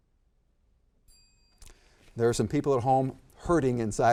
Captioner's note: bell ringing